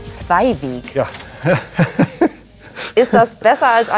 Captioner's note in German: Er lacht